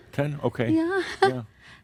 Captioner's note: she chuckles